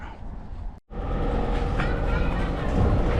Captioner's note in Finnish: auton kohinaa